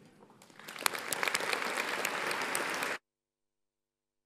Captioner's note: audience applauds